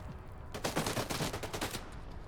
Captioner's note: gunfire